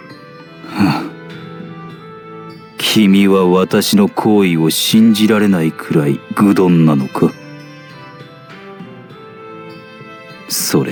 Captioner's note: sigh